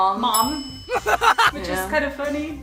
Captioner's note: maniacal laugh